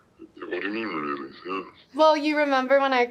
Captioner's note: altered male voice